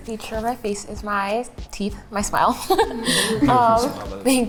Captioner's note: giggles